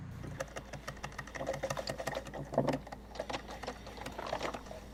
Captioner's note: coffee machine rattles